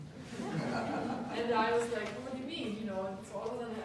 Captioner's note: audience laughing